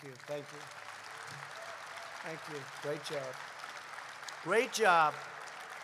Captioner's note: applause